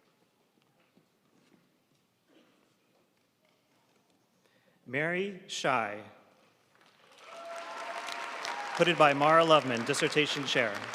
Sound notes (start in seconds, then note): 7.0 audience cheering and applauding